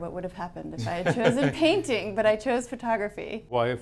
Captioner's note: laughs